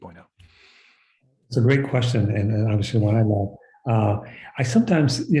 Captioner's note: speaking softly